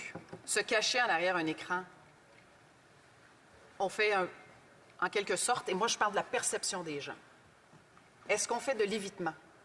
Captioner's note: speaking French